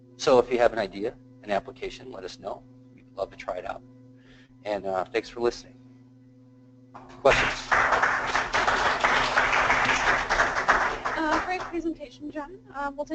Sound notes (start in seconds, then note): 7.0 applause